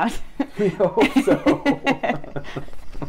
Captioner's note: laughing